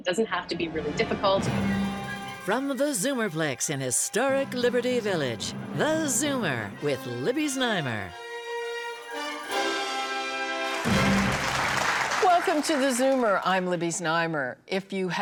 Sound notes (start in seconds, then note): 4.8 theatrical music; 7.3 audience applauding